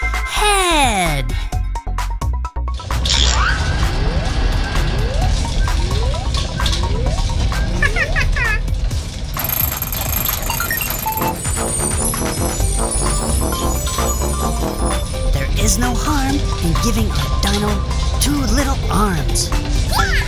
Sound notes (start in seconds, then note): 7.8 Gigglebot laughs; 11.6 synth melody